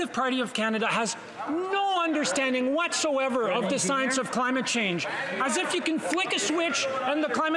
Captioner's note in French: voix de l'interprète